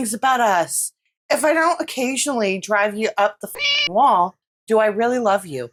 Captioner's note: meow